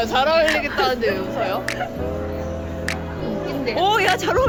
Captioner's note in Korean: 이상하게 계속 나오는 웃음